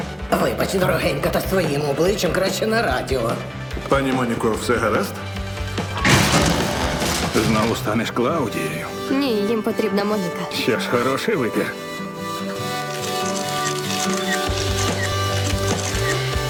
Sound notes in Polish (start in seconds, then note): 5.7 stukot reflektorów; 12.8 pstrykanie migawek aparatów